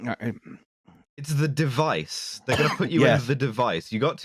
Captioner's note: grumbles